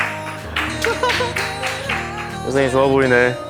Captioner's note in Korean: 깔깔깔